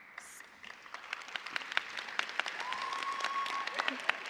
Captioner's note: cheers and applause